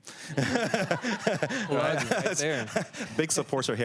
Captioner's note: laughter